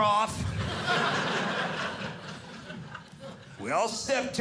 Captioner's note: audience laughing